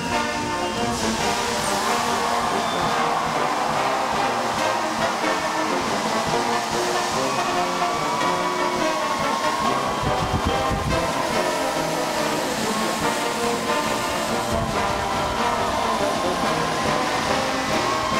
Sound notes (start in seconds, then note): 1.2 applause